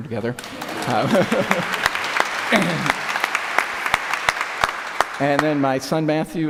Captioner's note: applause